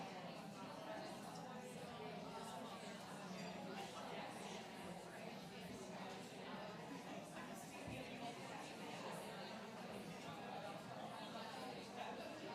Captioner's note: background chatter